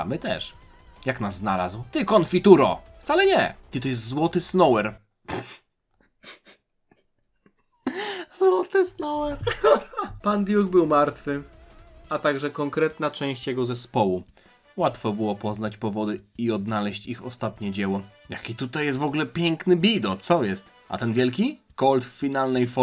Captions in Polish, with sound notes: my też. Jak nas znalazł? Ty konfituro wcale nie ty. To jest Złoty Snower. [parsknięcie] Złoty Snower. [śmiech] Pan Duke był martwy, a także konkretna część jego zespołu. Łatwo było poznać powody i odnaleźć ich ostatnie dzieło. Jaki tutaj jest w ogóle piękny bido. Co jest? A ten wielki Col w finalnej